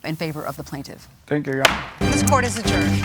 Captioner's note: gavel bangs